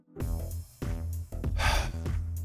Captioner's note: sigh